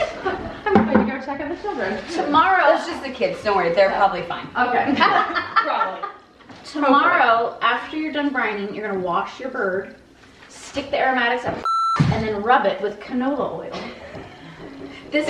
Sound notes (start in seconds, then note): 5.0 laughs; 14.0 both laugh